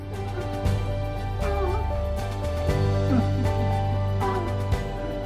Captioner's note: exclamations of joy